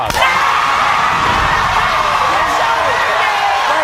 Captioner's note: audience cheering